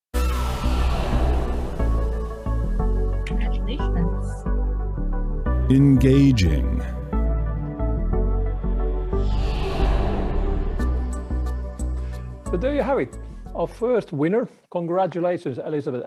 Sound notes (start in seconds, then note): 1.8 upbeat music; 9.1 air swoooshing